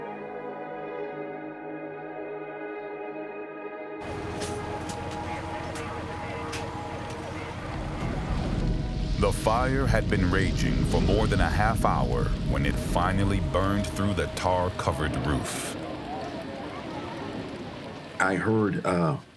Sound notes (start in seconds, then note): 0.3 sparse tense music; 16.0 bystanders chattering